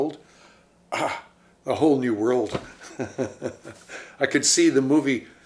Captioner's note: chuckles